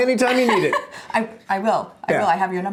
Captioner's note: chuckles